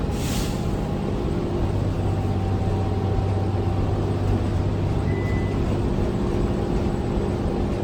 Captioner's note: ding